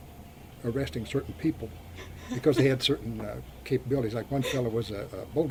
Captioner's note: laughs